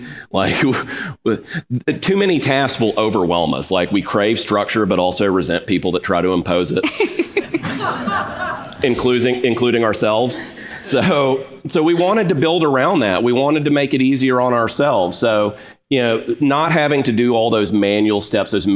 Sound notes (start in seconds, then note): 6.8 audience laughs